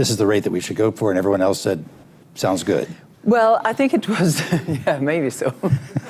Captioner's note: laughs